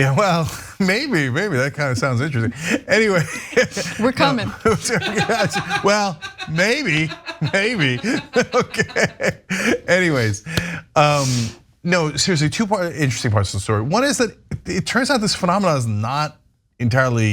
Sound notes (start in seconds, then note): 1.9 laugh